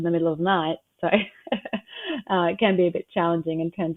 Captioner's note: chuckles